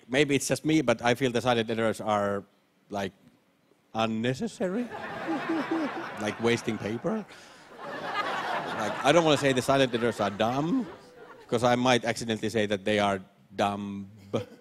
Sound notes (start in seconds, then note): 4.7 laughter